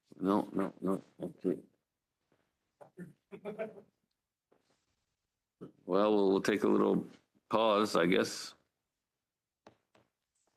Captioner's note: speaking in French